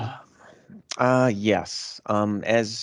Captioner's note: sighs